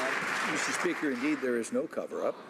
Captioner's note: some Applause